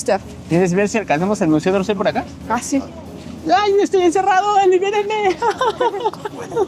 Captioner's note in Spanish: risas